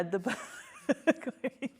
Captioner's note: all laughing